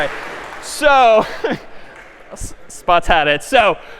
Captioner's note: می خندد